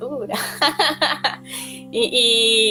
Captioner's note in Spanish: risas